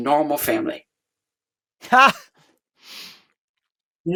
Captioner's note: laughs